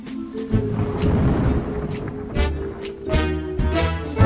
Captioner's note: mysterious music; thunder rumbling